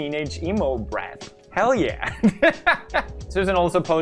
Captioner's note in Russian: смешок